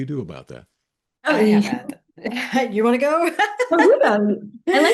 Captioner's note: laughs